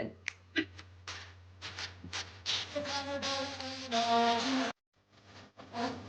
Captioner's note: humming